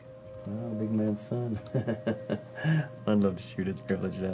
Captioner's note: laughs